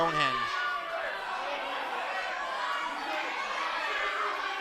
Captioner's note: crowd screaming